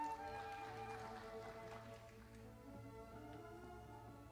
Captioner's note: audience applauding